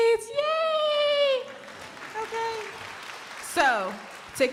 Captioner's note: crowd applauding